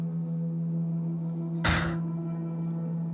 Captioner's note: Joui sighs